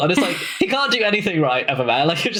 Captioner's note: laughs